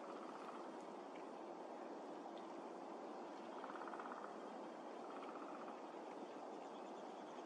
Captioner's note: sound of woodpeckers in distance